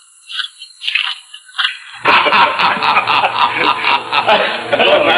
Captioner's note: men laughing